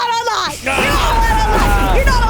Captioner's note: thunder crashing